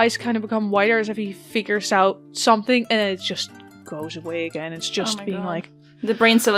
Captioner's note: sighs